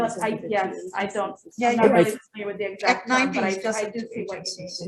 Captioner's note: people murmuring